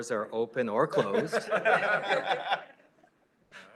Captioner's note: laughter